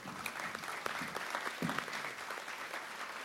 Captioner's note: applause